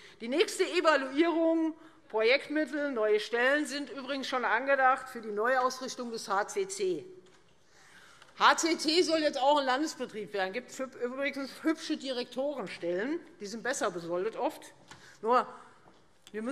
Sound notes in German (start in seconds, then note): none